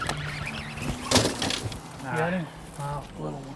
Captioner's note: reel spinning